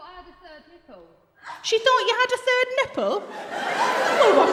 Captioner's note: laughter